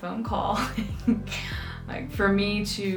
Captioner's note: laughs